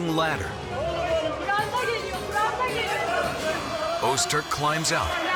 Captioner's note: chattering